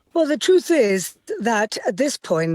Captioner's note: none